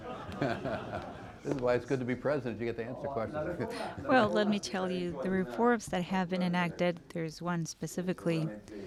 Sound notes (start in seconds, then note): 3.1 through translator